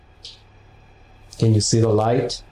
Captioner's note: clicking noises